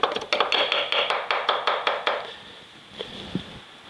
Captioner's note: knife chopping